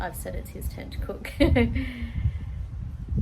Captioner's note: laughs